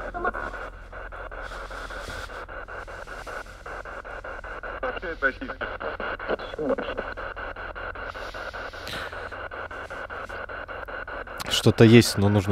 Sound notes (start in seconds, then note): 0.0 laugh